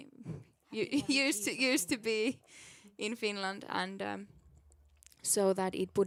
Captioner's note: chuckles